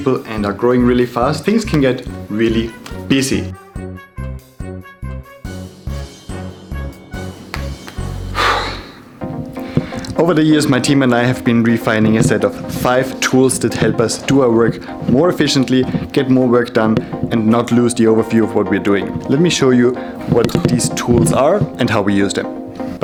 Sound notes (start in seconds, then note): 3.8 lively upbeat music; 8.2 exhales sharply